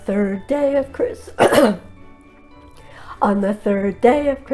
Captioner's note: clears throat